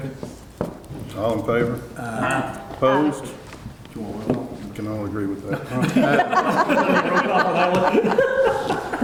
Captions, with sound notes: - Second. - All in favor? - Aye. - Aye. - Opposed? Can all agree with that? (audience laughing)